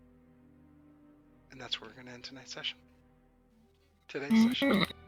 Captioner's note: groan